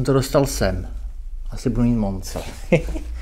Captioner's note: giggles